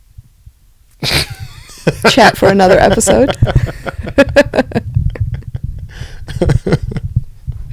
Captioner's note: laughter